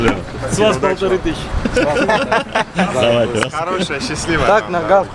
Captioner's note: laughing